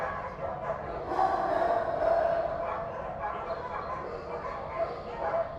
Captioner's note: dogs barking continues